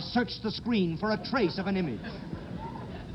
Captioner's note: audience laughs